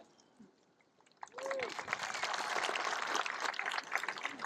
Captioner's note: cheering, applause